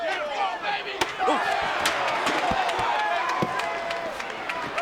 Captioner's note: chair thuds; audience chattering